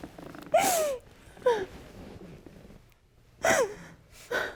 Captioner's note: crying